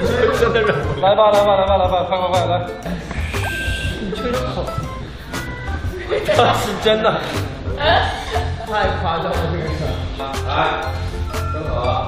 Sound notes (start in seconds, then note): 0.0 can't stop himself from laughing; 3.1 whistling audio test